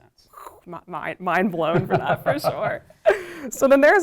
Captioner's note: laughs